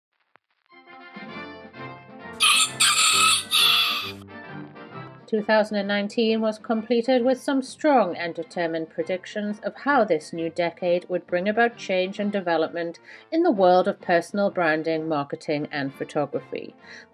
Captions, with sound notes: (playful music) (rooster crowing) - 2019 was completed with some strong and determined predictions of how this new decade would bring about change and development in the world of personal branding marketing and photography.